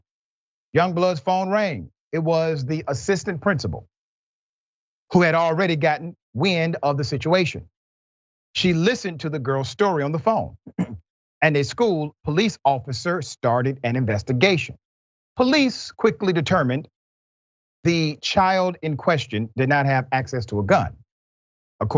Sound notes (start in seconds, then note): 10.6 cough